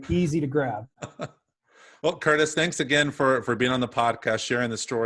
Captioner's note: laughs